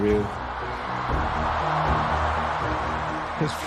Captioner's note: crowd continues cheering